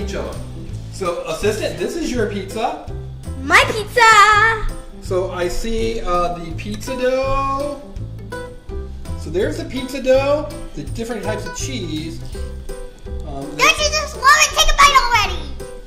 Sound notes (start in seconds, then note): 5.1 voiceover